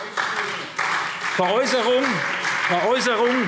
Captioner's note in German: Beifall SPD